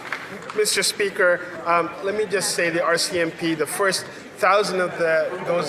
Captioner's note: some Applause